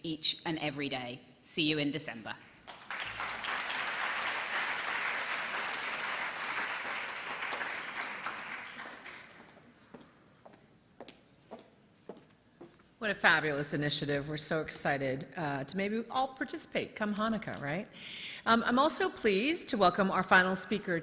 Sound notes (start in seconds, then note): 5.1 applause